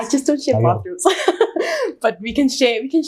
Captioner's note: chuckles